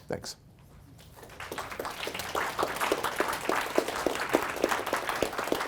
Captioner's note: audience applauding